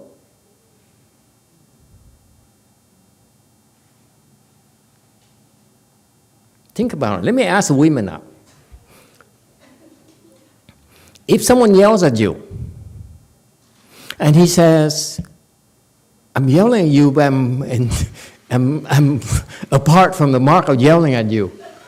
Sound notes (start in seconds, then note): 16.2 laughs, audience laughs